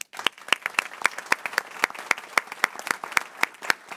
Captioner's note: people clapping